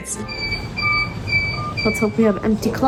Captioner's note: machine beeping